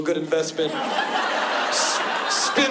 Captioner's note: laughter